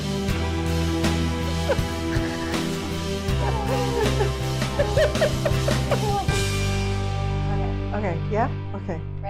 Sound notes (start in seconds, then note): 4.5 laughing